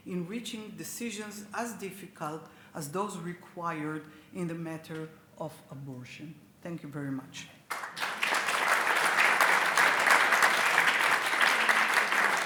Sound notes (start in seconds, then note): 7.7 audience applauds